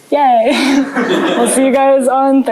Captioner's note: laughter